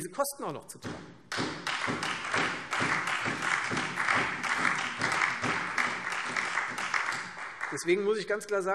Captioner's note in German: Beifall Freie Demokraten, SPD und DIE LINKE